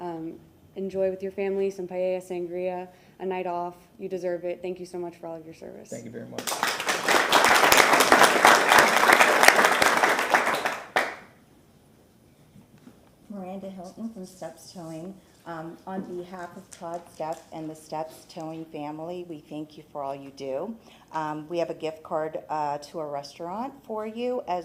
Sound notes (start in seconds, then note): 10.3 applause